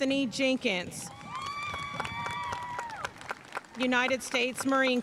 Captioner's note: audience cheering and applauding